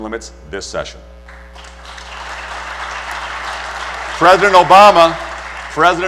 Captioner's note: applause